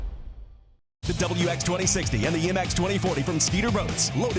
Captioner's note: voiceover